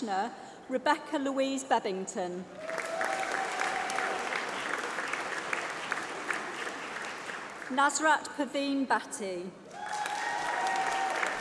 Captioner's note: applause